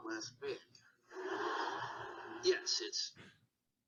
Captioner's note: audience laughing